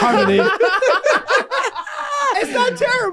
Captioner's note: group laughing